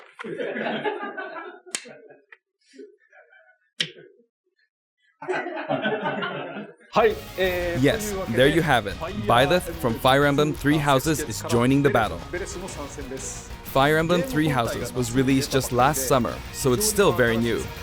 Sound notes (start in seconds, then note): 0.1 laughter; 5.3 continued laughter; 7.1 speaking Japanese